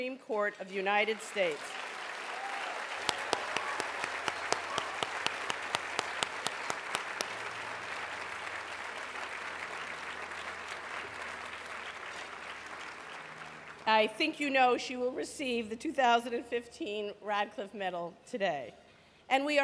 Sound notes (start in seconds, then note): 7.5 applause